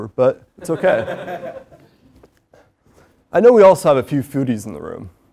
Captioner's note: laugh